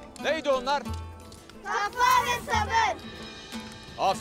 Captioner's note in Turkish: Hep bir ağızdan